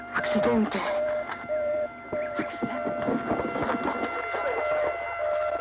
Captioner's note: ambulance siren wailing